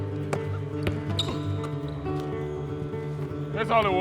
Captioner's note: hands slap basketball; basketball thuds